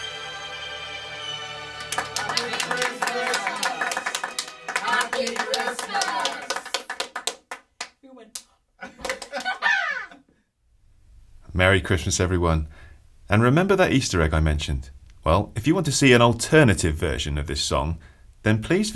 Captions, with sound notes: (Applause) Happy Christmas! (Applause) Happy Christmas! Ha ha! Merry Christmas everyone and remember that Easter egg I mentioned? Well if you want to see an alternative version of this song then please visit